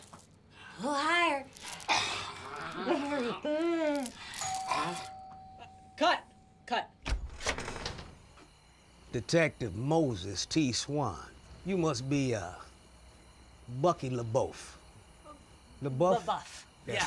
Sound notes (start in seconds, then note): 4.3 doorbell ringing